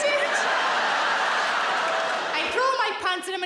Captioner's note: audience laughs